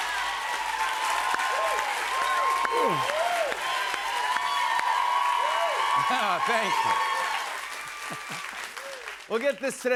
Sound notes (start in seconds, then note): 2.5 yawns